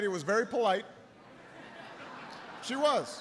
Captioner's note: laughter